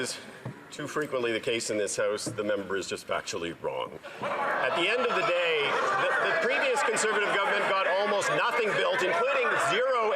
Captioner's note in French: voix de l'interprète